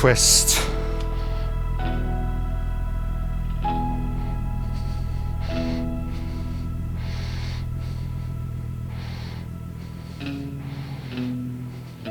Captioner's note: breathing